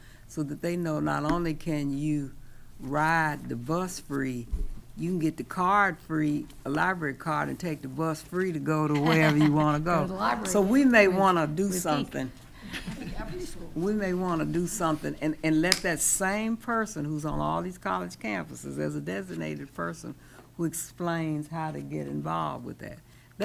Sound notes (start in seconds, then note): 8.9 laughing; 12.8 speaking quietly